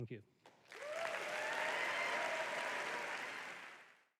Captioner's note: applause and cheers